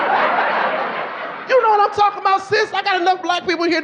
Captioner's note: audience laughing